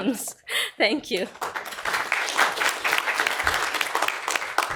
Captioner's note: applause